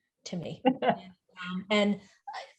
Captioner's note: laughs